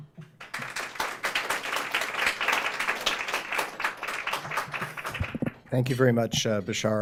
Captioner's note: applause